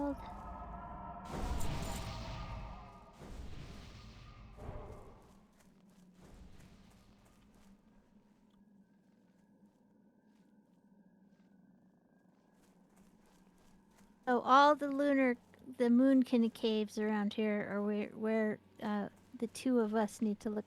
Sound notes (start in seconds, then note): 7.9 silence